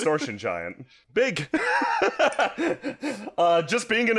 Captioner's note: nervous laughter